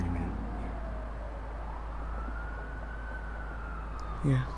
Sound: sirens passing

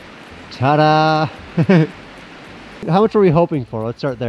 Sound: laughs

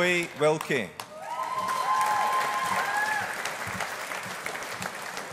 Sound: audience applauding

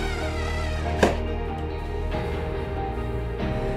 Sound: tool whirring

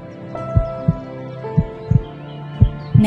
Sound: heartbeat

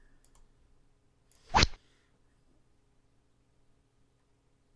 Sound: rod sound

